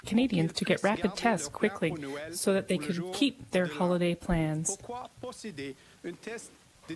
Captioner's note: speaking French